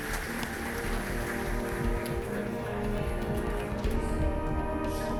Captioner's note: applause